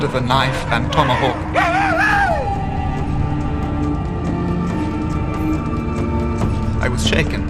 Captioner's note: native American warrior shouts triumphantly